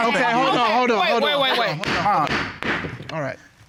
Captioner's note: gavel banging